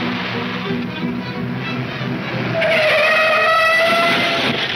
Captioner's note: tires screeching